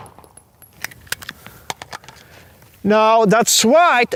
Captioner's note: pistol firing rapidly; pistol holstering